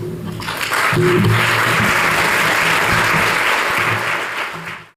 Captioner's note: applause